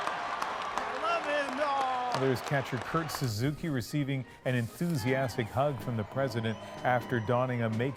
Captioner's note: cheers and Applause